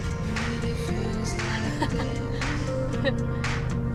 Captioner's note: laughing